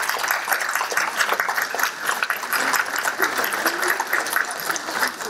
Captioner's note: applause